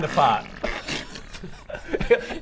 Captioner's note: brrrprrpprprprpp